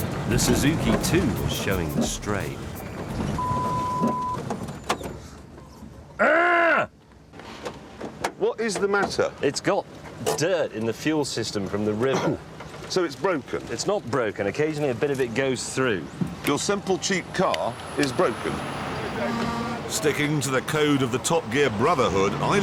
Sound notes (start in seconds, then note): 2.9 engine stops